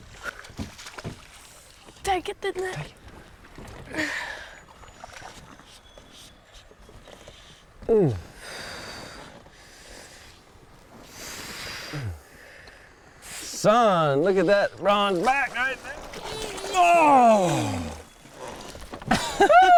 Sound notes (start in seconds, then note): 4.6 exhaling; 11.0 breathing heavily